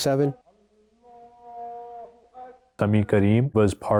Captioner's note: congregant chanting